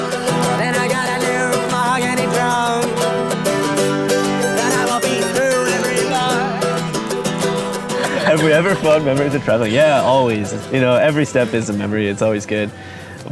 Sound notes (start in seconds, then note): 7.3 laughs